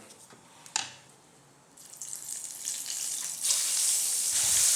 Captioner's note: sizzling